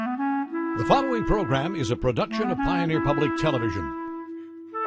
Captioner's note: voiceover